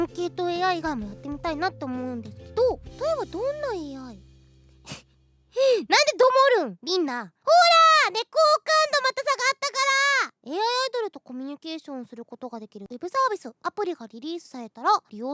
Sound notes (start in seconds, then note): 4.6 snickers; 4.8 inhales